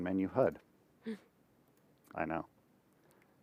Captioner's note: gasps sarcastically